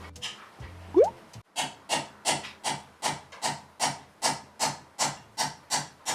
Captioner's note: spoon tapping on mixer